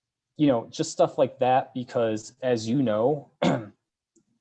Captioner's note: coughs